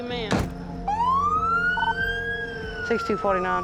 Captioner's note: sirens